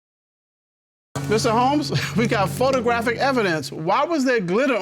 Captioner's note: chuckles